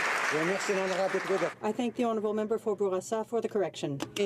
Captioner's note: some Applause